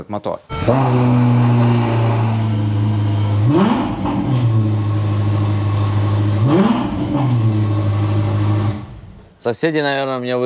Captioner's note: engine revving sounds